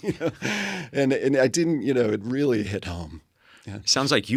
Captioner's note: laugh